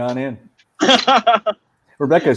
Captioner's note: laughing